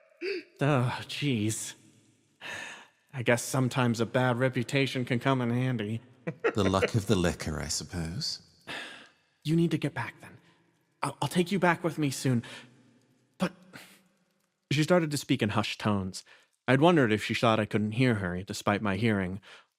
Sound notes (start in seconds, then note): 8.7 Sadi Sigh